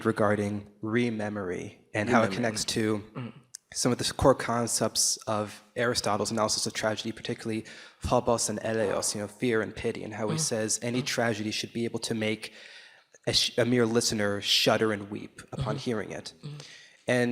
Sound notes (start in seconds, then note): 8.5 speaking Greek